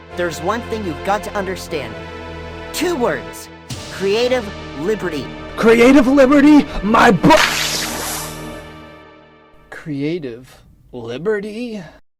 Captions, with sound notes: There’s one thing you’ve got to understand. Two words. Creative liberty. CREATIVE LIBERTY MY B- [Powder spray] Creative… liberty?